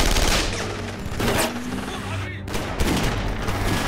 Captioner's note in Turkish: Silah sesleri